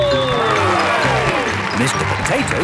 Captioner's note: cheering